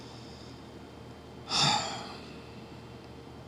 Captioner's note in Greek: αναστενάζει; ξεφυσάει